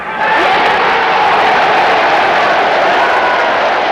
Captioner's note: crowd roaring